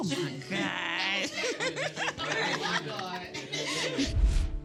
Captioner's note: all laughing